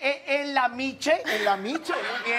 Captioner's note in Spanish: Risas